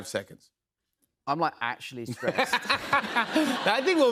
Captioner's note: laughs